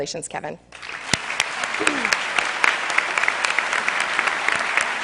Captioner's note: cheers and applause